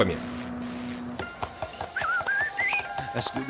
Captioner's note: whistling